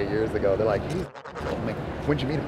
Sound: beeping

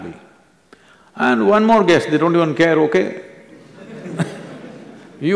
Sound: laughter

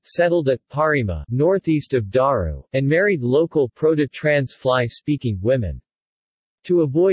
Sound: proto–Trans Fly speaking

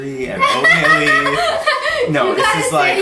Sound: chuckles

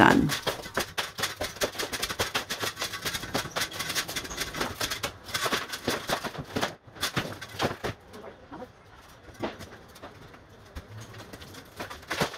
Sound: scraping sounds

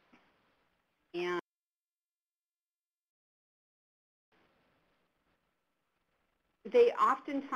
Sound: silence

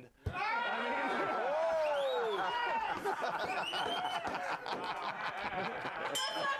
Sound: audience cheering; bell rings

